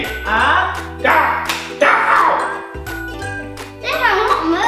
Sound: groaning

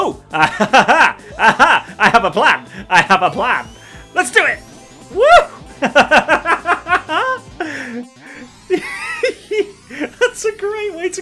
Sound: laughs

